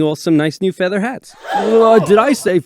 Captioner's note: gasp